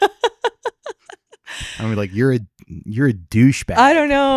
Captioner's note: laughing